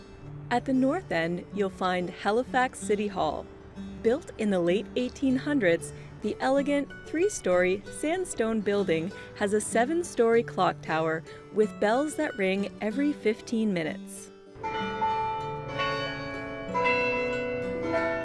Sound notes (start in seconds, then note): 14.6 bells ringing